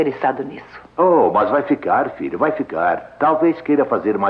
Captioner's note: chuckles